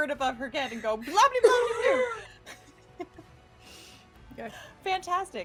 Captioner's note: laughing